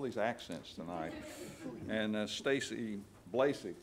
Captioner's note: audience laughs